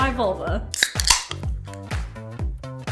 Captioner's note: can clinking; upbeat pop music